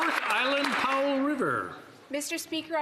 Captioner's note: some Applause